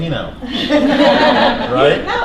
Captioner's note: laughter